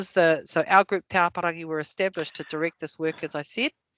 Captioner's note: non-english